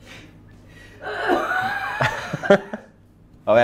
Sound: coughing heavily in the background

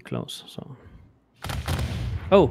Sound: volley of booming sounds

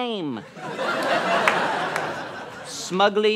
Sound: audience laughter

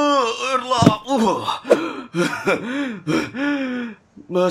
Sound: coughing

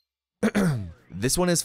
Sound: clearts throat

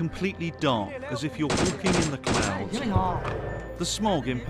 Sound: game sounds

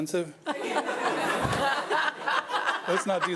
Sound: audience laughing

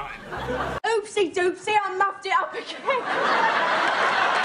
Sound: laughs

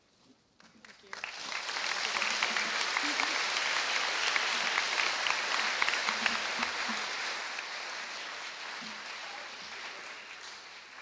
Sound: applause

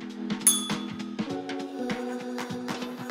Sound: bell rings; upbeat music

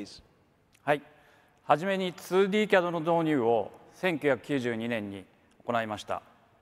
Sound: speaks in foreign language

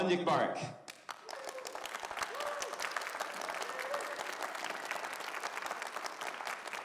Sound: audience cheering and applauding

